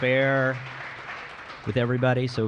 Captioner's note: applause